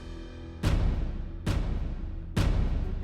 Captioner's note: slamming sounds